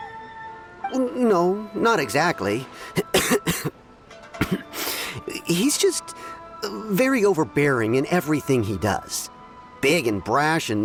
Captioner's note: cough